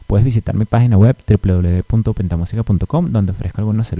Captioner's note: spanish only